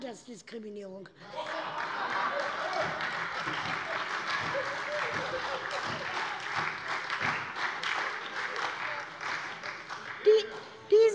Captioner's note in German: Heiterkeit - Beifall bei der SPD und der LINKEN